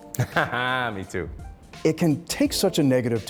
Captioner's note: laughs